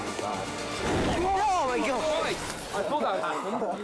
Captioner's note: flames whoosh; all shout